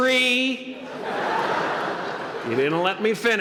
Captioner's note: laughter